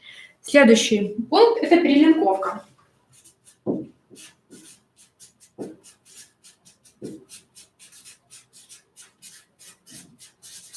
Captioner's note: скрежет маркера